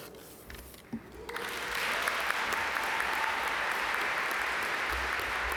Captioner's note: audience cheer and applaud